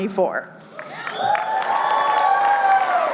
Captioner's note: cheering